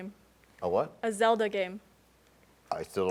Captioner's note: none